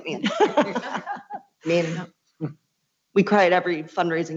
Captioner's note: laughs